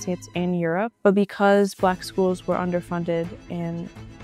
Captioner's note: voiceover